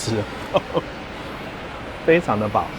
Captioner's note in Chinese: 笑聲